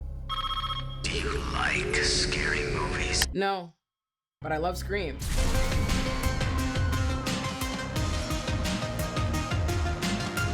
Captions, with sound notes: (phone ringing) Do you like scary movies? No, but I love Scream. (upbeat music)